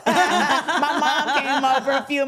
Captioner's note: everyone laughing